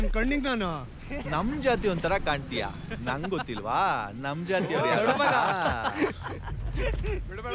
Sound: boys laugh in the background

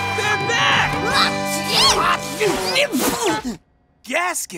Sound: sneezing

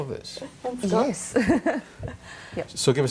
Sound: laughs

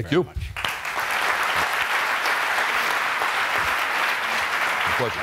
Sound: applause

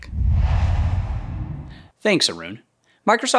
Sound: logo swooshes

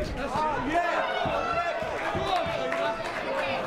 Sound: crowd cheering and clapping

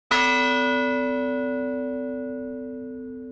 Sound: bell tolls

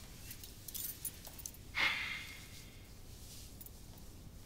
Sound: sighs deeply

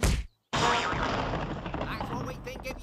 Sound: crash

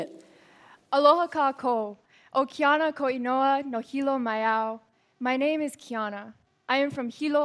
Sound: non-english

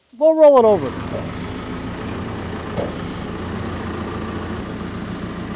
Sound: telehandler engine humming

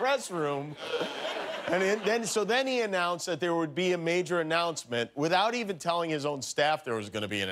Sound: laughter

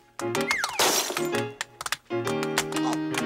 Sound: pot crashing

